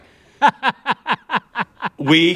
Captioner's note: laughter